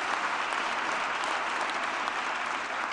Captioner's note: applause